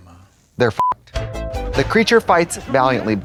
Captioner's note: beep